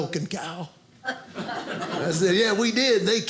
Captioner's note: audience laughing